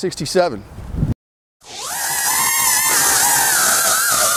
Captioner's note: whirring